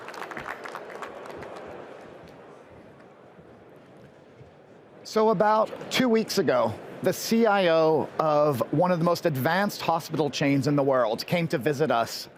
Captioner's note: applause